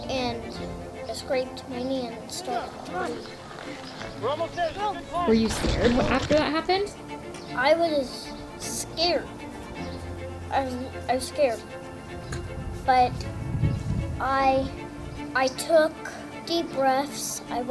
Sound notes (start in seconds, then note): 3.3 bike crashes